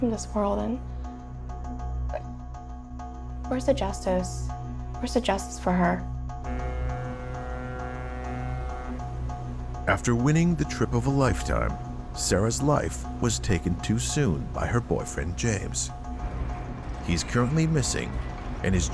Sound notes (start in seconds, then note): 16.1 gate clangs